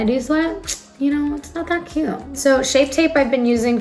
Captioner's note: sucks teeth